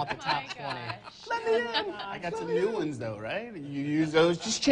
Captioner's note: laughing